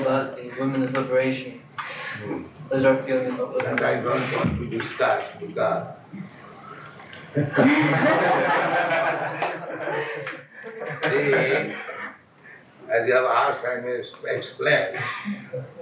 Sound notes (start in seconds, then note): 9.2 laughs; 10.1 laughter